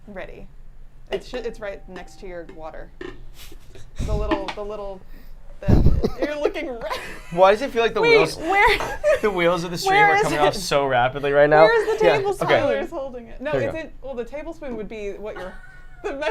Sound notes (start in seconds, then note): 7.4 laughs